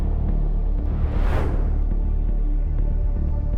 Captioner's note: air whooshes